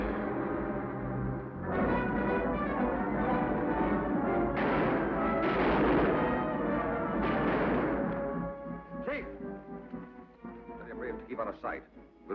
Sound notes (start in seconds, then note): 2.4 exciting music; 5.1 guns bang